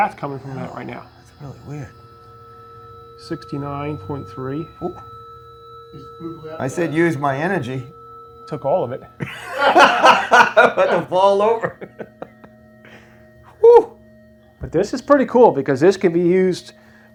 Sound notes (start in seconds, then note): 9.2 laughter